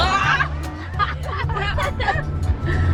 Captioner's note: children exclaim; peppy music